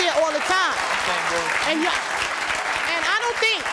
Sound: audience applause

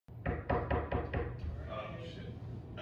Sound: knocking

